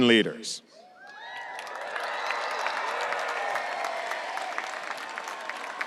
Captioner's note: audience applauding and cheering